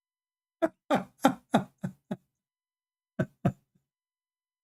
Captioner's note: Ketawa